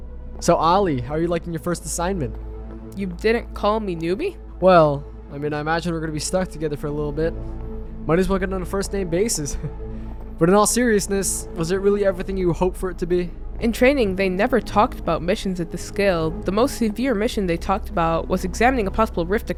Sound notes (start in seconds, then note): 9.5 chuckles; 13.2 sarcastically